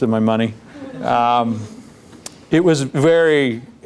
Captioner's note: laughter